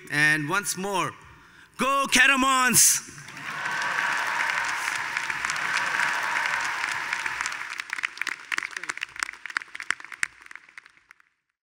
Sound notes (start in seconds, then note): 3.2 attendees applauding; 3.2 attendees cheering